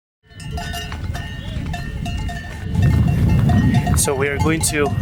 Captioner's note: bells chiming